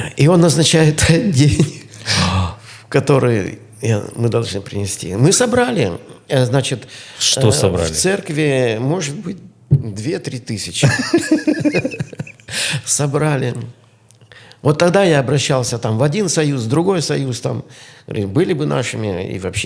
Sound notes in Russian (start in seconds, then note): 13.5 смех